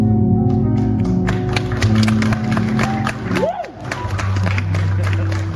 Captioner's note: audience applauding